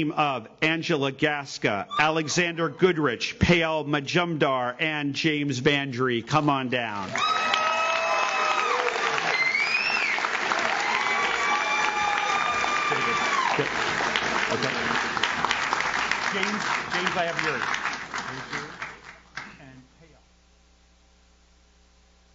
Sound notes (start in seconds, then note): 7.4 audience cheers; 7.4 audience claps